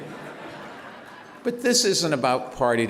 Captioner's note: laughter